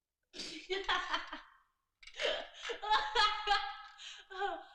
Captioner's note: Julie laughing